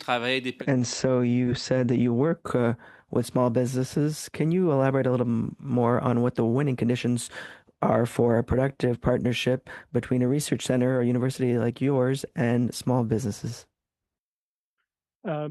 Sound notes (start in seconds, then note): 3.4 speaking French